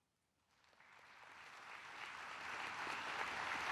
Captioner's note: claps